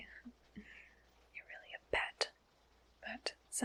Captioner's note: whispers